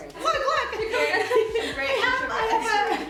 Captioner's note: laughter